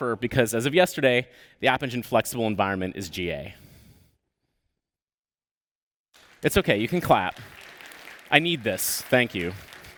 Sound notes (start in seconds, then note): 6.1 applause